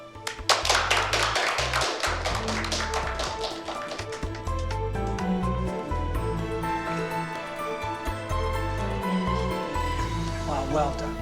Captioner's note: applause